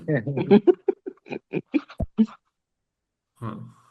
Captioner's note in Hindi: हंसी